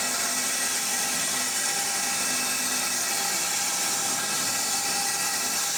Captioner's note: saw whirring continues